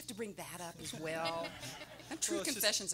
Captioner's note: everyone laughing